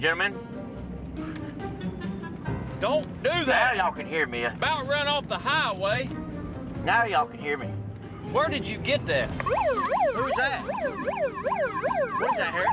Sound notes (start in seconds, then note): 9.4 siren